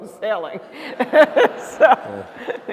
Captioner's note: laughter